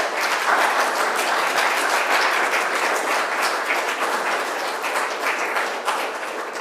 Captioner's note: applause